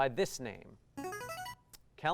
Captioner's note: buzzer